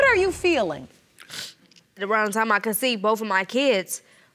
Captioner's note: sniffles